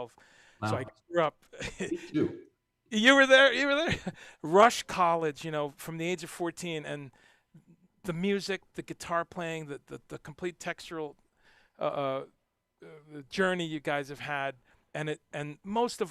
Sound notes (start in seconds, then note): 1.6 laughs